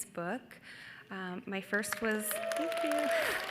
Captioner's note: audience whoops